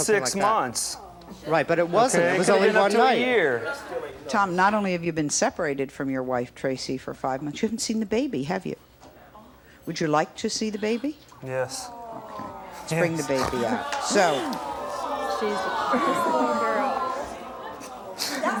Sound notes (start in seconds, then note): 14.0 audience awwing